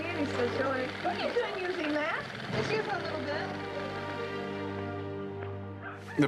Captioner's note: people in conversation